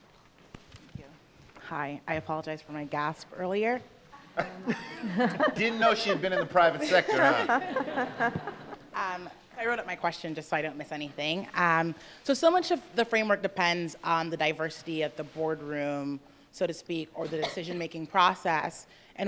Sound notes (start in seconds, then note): 4.4 laughing